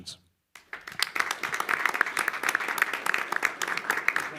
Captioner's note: applause